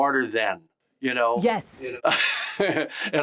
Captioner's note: James laughs